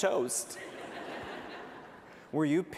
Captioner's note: laughter